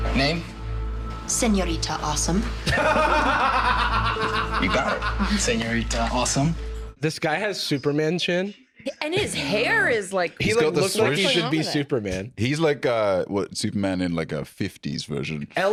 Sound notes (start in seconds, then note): 2.6 laughs